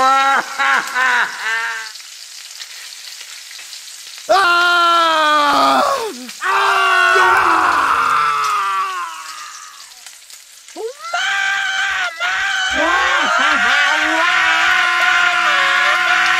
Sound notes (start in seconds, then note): 4.3 everyone starts screaming